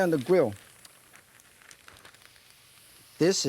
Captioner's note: meat sizzling on grill